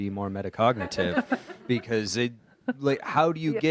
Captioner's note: audience laughs